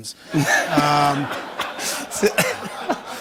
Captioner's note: laughter